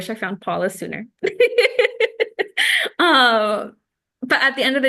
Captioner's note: laughter